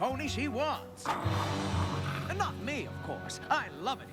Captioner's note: growls